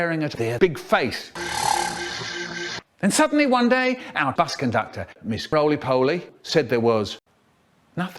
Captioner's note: warped sound